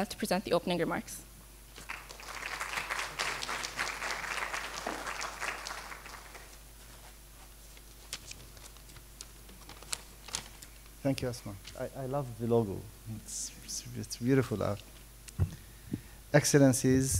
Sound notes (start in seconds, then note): 1.7 applause